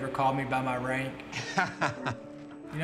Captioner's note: laughter